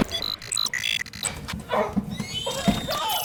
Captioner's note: door kicked in; robotic beeps